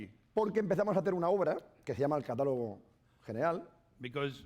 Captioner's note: speaking spanish